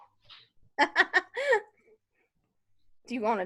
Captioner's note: laughs